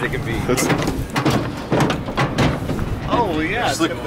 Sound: metal clanking

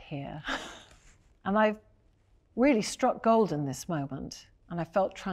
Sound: chuckles

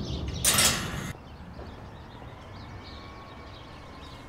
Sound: gate clanks

